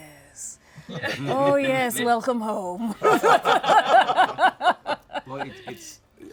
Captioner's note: laughter